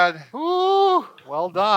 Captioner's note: cheers